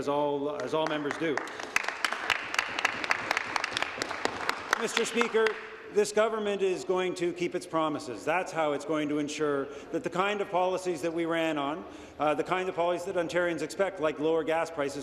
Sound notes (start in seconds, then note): 4.4 applause